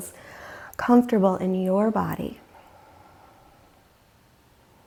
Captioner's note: deeply inhaling